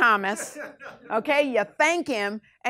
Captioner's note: class laughs